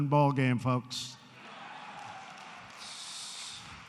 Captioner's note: applause